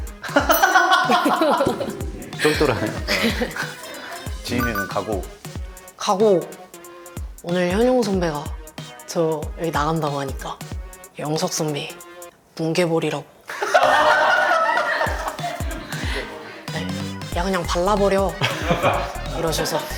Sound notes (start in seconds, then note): 0.3 haha